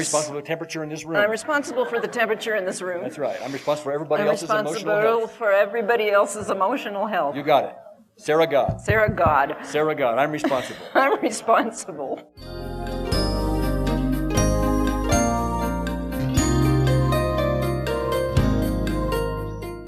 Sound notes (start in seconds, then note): 1.2 audience laughter; 12.5 relaxing electronic music